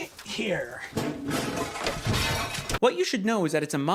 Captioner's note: dubbed crashing noises